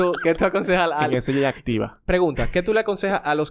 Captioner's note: laughs